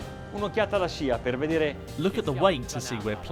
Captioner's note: speaking foreign language